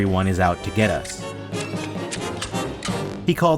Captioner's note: clacks